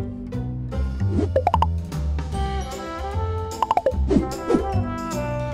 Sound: graphics pop; graphics woosh

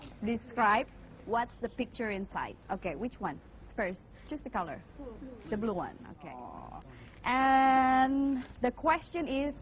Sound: none

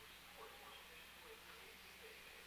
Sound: none

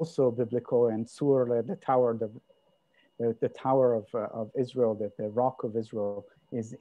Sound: hebrew

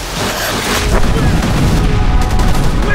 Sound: explosions booming

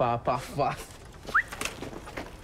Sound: whistles

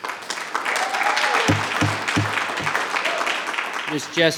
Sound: audience applauding

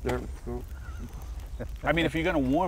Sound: laughing

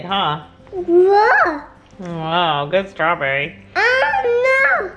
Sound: mumbling

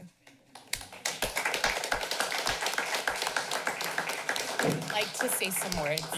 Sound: applause

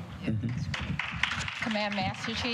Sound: applause

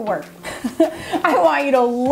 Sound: laughs

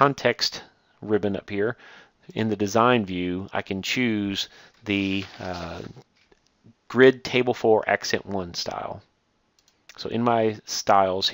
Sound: click

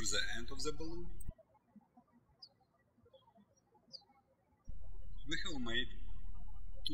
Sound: birds chirping

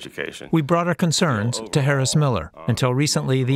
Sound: voice-over

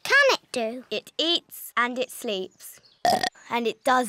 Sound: burps

